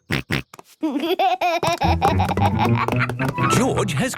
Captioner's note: snorts, giggles